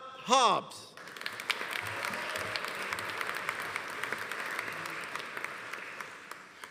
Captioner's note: audience applauding; audience cheering